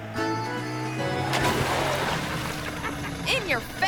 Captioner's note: water splashing